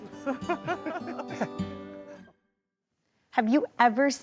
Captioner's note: laughing